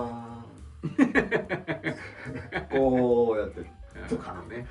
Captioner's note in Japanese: 笑い